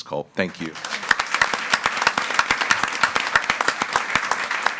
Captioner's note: all applauding